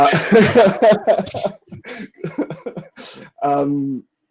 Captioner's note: laughing